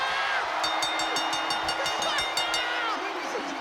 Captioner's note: bell rings